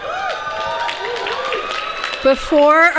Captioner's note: applause